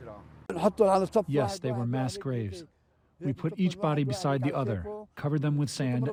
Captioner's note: through translator